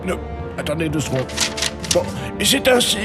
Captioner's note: pages turning